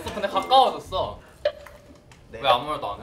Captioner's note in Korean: 조용